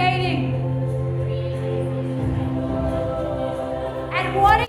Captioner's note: group muttering